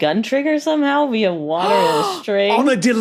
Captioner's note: gasps loudly